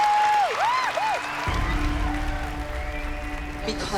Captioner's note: applause and cheering; applause, cheering and whistling